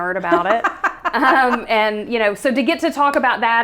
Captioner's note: laughs